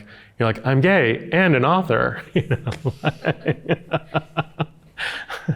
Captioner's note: chuckling